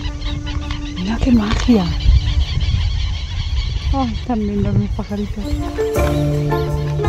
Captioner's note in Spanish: sonido de aves